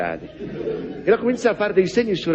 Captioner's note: laughs